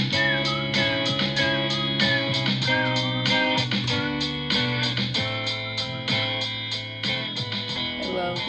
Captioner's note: whistling over top the music